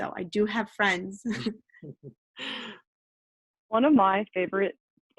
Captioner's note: laughing